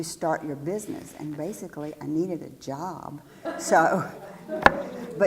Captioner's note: laugh